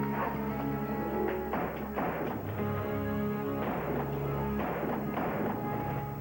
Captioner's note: gunshots